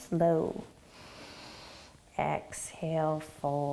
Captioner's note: inhaling